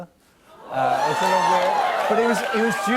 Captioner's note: audience oohs